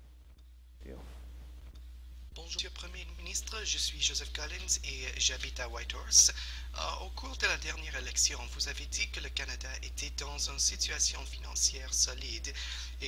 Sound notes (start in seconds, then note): 2.1 speaking French